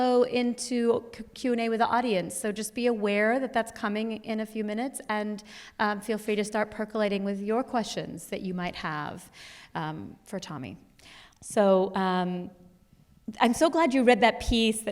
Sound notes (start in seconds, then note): none